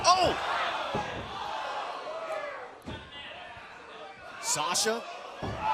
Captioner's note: crowd chatter